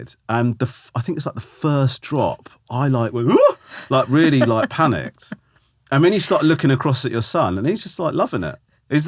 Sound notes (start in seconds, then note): 3.2 laughing; 3.5 Romesh gasping